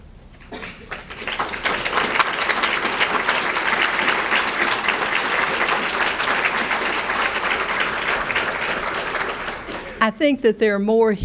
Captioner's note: audience clapping